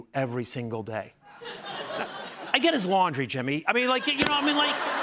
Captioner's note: laughter